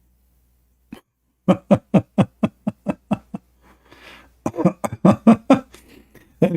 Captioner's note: Ketawa